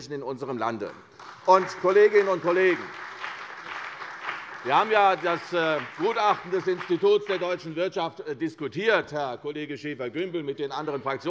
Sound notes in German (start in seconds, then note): 3.2 Beifall bei der CDU und dem BÜNDNIS 90/DIE GRÜNEN